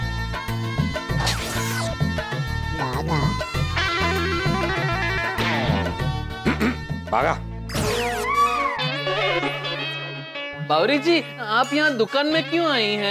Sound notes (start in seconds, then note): 6.4 clears throat